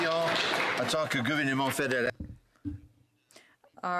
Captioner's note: some Applause